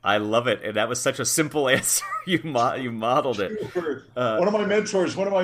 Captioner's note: laugh